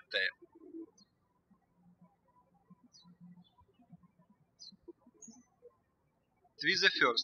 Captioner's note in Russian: птички щебечут